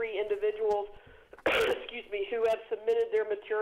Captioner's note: coughs